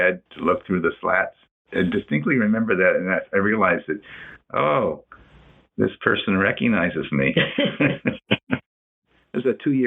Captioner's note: laughs